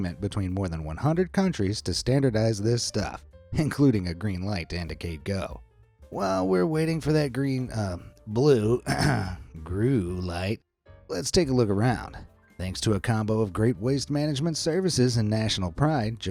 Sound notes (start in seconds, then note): 8.8 narrator clearing throat